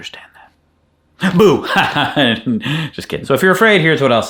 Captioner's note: laughing